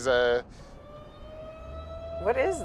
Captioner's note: siren wails